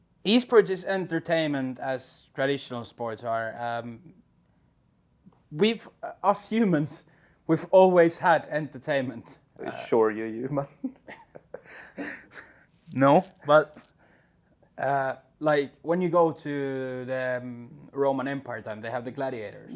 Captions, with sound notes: Esports is as entertaining as traditional sports are. We, us humans, we've always had entertainment. Sure, you human! [CHUCKLES] No, but... Like, when you go to the Roman Empire times, they had the gladiators.